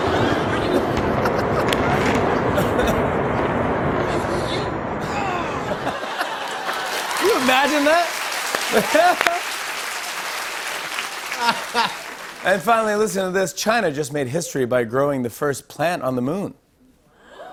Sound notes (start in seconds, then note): 0.0 laughter; 5.4 laughter; 10.8 laughs